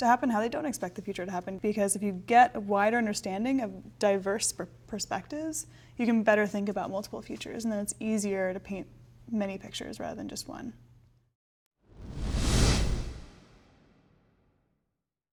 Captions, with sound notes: to happen, how they don't expect the future to happen, because if you get a wider understanding of diverse perspectives, you can better think about multiple futures, and then it's easier to paint many pictures rather than just one. (deeply swooshing)